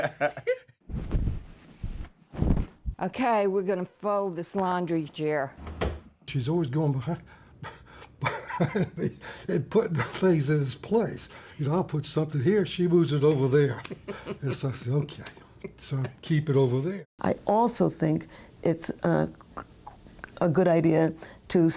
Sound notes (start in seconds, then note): 0.0 both laugh; 0.2 sheets whoosh; 8.2 laughs; 13.7 laughs